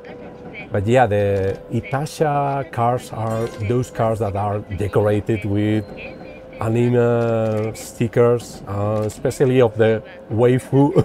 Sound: laughs

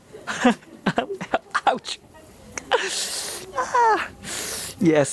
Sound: winces

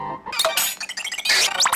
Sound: kplunk smack screech pop; more sped-up sound effects

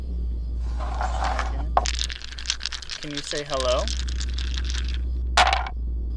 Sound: dice rattling; dice thumping

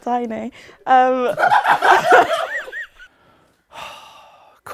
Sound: people laughing

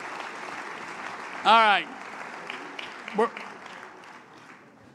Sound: applause

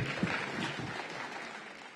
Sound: applause

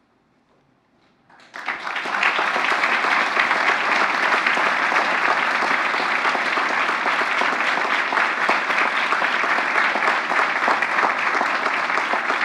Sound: applause

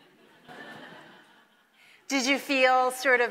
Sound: audience laughing

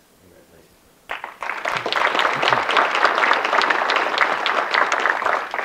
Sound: audience clapping

